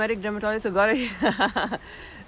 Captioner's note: giggling lightly